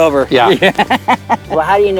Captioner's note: laughter